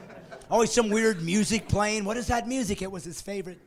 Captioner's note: laughing